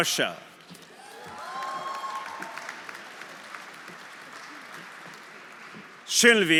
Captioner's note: audience cheering; audience applauding